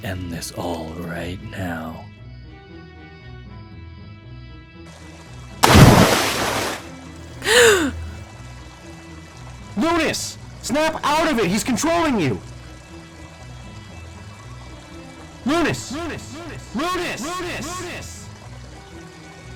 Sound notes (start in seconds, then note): 7.4 Vixy gasps for air